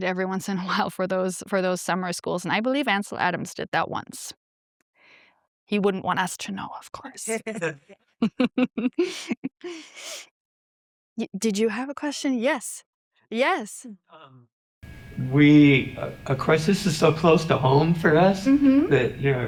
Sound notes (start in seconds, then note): 8.2 chuckles